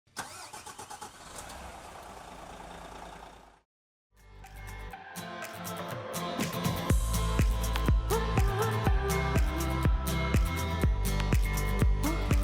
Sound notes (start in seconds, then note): 0.1 engine starting; 4.4 upbeat music